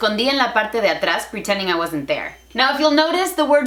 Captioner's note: Spanglish